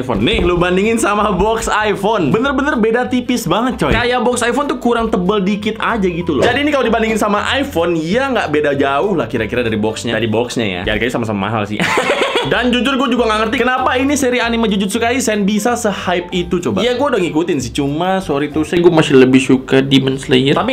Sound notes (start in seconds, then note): 11.8 chuckles